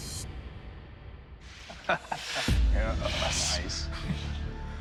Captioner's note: chuckles; dramatic music playing